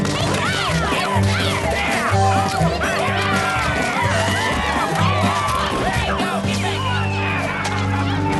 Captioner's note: angry shouting